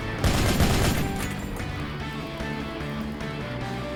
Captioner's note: gunshots